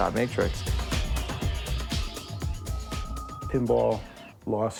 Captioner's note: game sounds